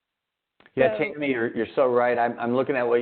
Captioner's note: faintly speaking